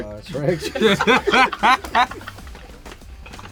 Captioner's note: laughter